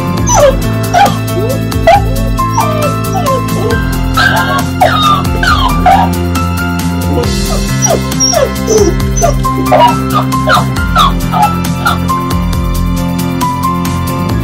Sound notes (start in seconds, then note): 0.8 puppy: whining; 4.3 toy: mimic whining; 7.0 puppy: whining; 9.9 toy: mimic whining